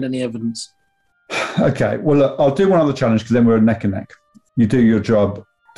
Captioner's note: sighs